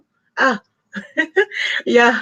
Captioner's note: laughs